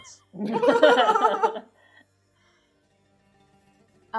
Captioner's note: laughing